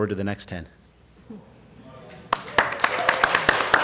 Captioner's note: applause